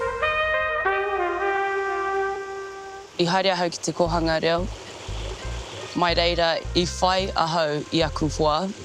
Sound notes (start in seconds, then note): 0.0 spirited trumpet music; 3.0 speaks te reo māori